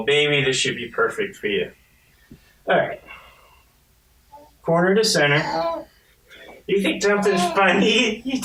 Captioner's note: baby laughs